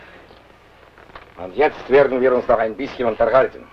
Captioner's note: foreign language